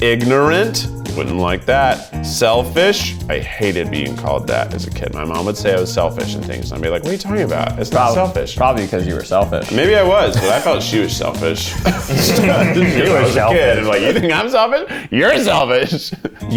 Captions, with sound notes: Ignorant, wouldn't like that. Selfish, I hated being called that as a kid. My mom would say I was selfish and things, and I'd be like, what are you talking about? That's not selfish. - Probably because you were selfish. - Maybe I was, but I thought she was selfish. (all laugh) Like you think I'm selfish, you're selfish! (laughs)